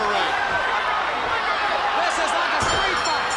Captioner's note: crowd chatter